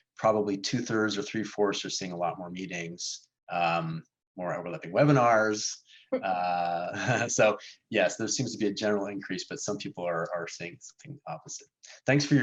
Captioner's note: laughter